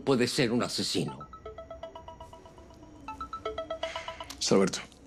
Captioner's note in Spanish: Suena el celular